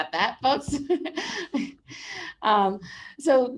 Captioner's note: laughs